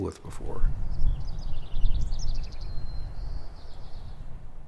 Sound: birds chirping

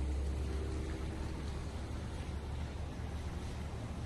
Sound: car pulling out of parking space

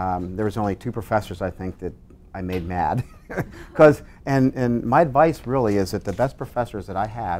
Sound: laughs

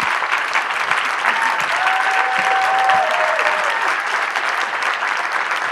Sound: applause; applause

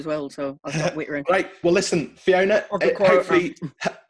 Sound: laughs

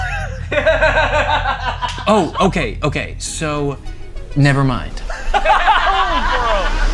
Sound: laughter; laughter

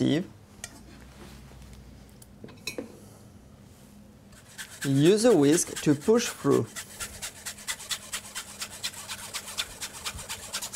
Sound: whisking sounds

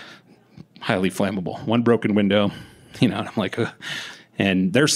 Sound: shudder

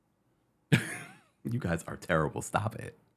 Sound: laughing

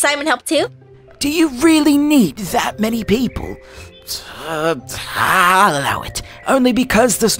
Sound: grumble

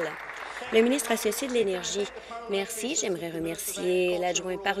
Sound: applause

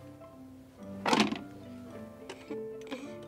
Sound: record clatters

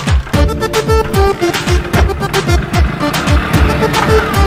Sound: bike starts and engine revs

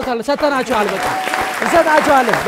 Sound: applause

